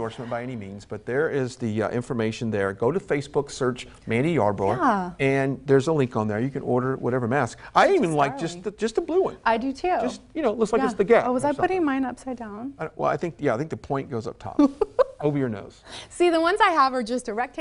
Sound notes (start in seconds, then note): 14.6 laughs